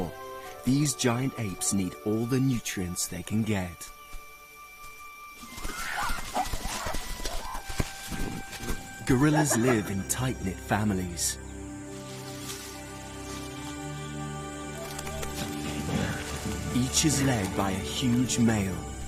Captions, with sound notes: (gorillas hollering) (leaves rustling) Gorillas live in tight knit families. Each is led by a huge male, the silverback.